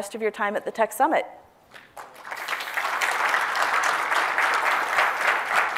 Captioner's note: applause